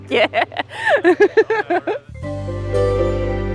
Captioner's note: laughing